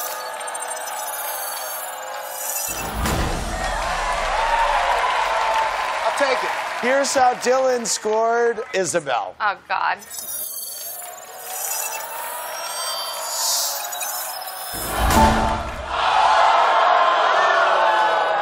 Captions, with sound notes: [audience cheers] I'll take it. Here's how Dylan scored Isabel. Oh, god. [beeping] [audience yelling]